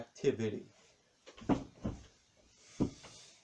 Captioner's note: thumping landing back on chair